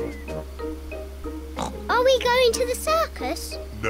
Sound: oinks

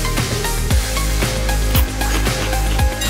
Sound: munching

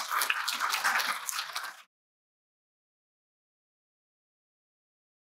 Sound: applause

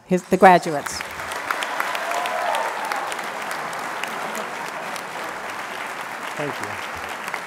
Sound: applause

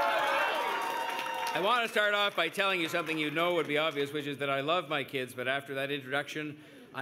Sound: cheers and Applause

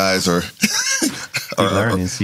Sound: laughing

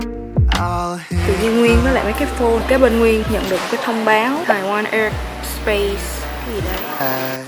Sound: military planes are crossing

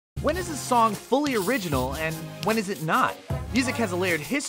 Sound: voice-over

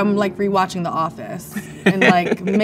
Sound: man laughs

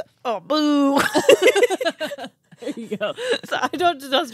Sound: both laughing

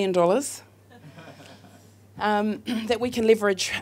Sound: audience laughs

